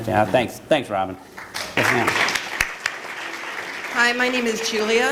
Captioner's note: applause